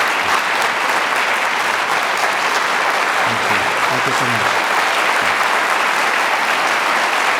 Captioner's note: audience applauding